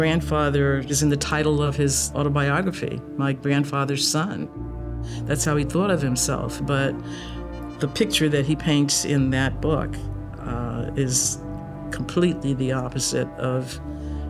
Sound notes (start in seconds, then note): none